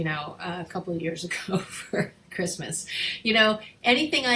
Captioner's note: chuckling